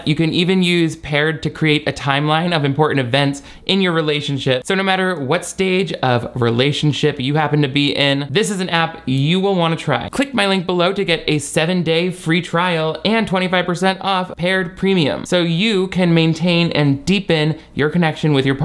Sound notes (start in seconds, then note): none